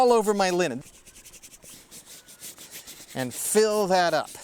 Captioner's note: brushing vigorously